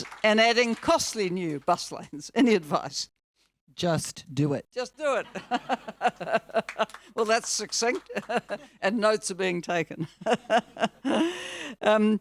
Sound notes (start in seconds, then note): 5.3 laughs; 5.3 audience laughing; 11.4 laughs